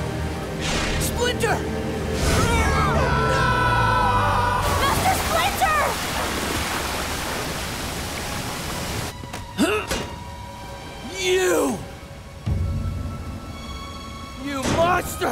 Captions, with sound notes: Splinter! No! Master Splinter! [grunting] You! You monster!